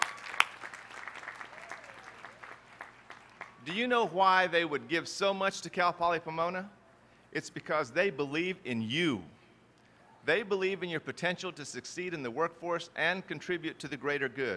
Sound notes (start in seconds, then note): 0.0 applause